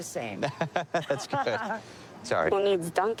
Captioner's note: laughing